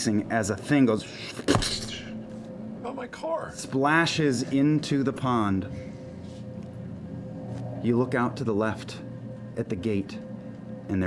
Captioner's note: splashing